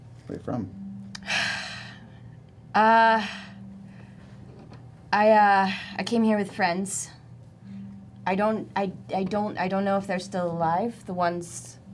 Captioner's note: sighs